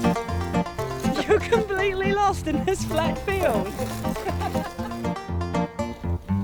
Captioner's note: melodic country music; laughing